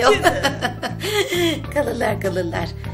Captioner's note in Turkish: gülme sesi̇